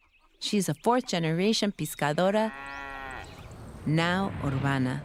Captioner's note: cow moos